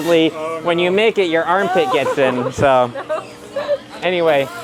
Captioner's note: laughing